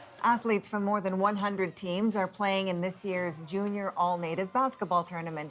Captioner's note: cheers and applause